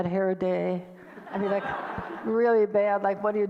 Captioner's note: audience laughter